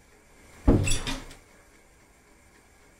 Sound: door opens

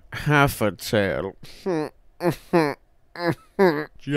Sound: laughing like an asshole

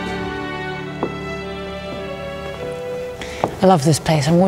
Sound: heels clack

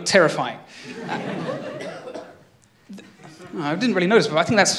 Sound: laughter

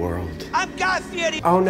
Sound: distant shouting

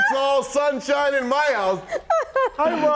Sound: laughter

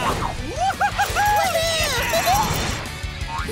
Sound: cheering

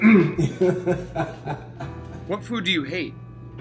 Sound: laughs

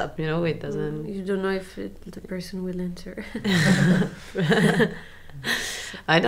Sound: laughs

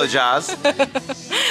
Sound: laugh

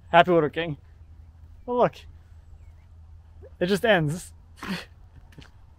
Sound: laughs

